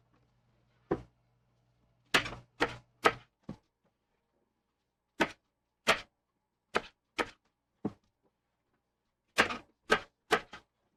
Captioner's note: knife cutting